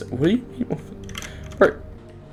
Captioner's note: australian Noises